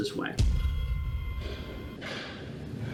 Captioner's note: metallic ringing boom